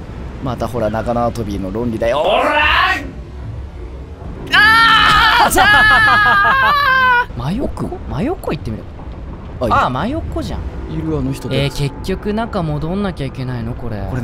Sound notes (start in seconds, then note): 4.5 half frustrated, half scared yell; 5.0 laughing